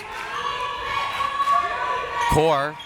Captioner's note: crowd members shouting